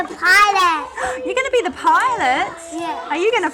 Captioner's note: gasps